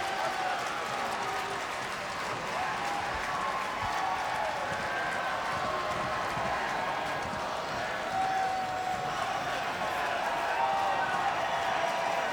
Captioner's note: applause